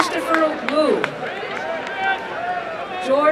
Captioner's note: applause and cheering